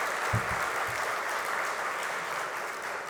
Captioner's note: applause